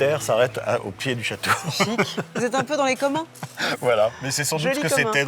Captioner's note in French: rires